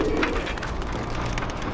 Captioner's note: pigeon cooing